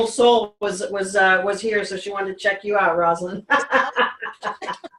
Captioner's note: laughs